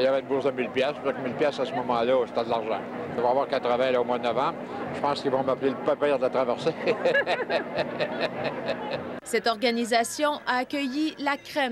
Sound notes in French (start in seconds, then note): 6.7 rires